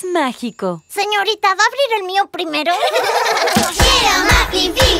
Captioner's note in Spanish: Risas